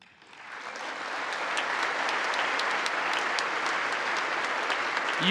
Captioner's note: congress applauding